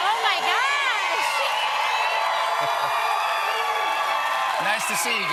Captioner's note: cheers and applause